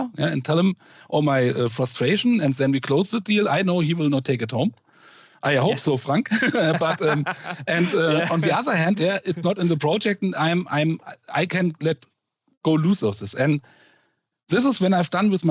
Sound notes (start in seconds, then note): 6.2 laughter